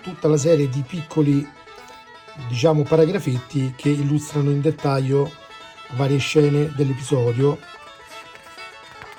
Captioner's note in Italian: Applauso